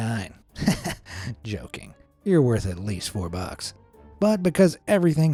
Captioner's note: laughs